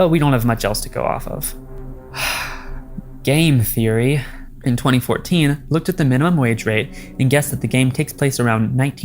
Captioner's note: deep sigh